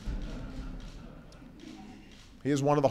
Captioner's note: laughter